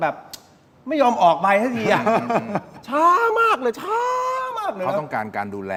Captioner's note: laughs